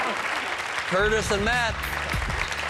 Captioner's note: cheers and applause